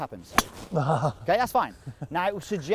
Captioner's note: thwack sound; laughs